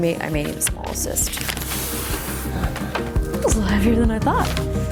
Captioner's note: paper rustling